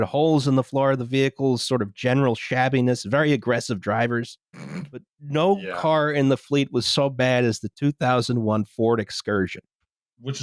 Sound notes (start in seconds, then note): 4.7 snorts